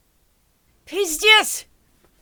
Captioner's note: speaking Russian